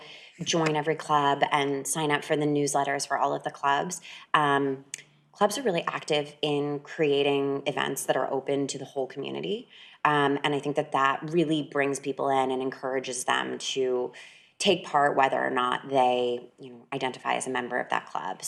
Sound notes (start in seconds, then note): none